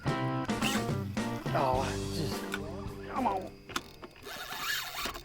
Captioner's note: fishing reel buzzing